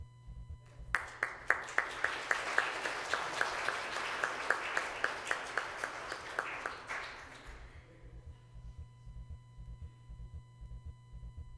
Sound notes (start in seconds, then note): 0.8 applause